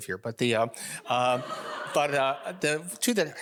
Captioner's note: audience laughing